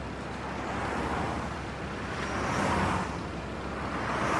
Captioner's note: vehicles passing